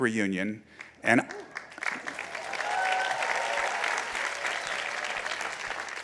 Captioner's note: audience applauding